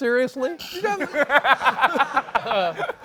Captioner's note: laughter